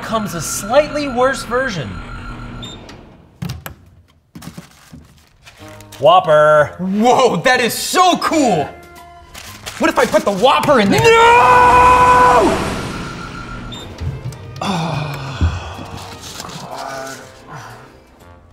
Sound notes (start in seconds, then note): 2.5 "Burger King machine" beeps and roars; 4.3 paper rattling; 13.3 "Burger King machine" beeps and roars; 14.5 sighs